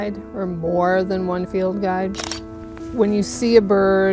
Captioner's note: camera clicking